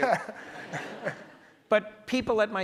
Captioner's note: audience laughs